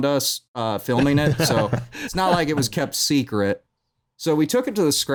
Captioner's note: laughing